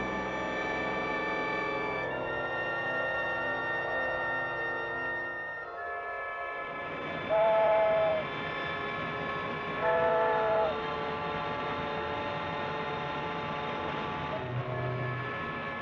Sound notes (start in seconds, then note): 4.1 suspenseful music continues; 4.1 whistle howling; 11.7 suspenseful music continues